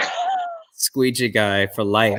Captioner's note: laughter